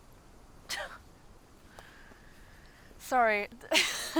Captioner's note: scoffing; chuckles